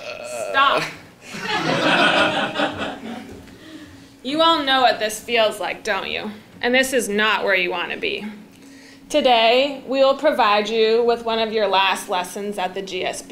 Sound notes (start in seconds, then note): 1.3 laugh